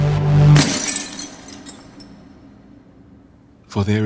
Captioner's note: glass shattering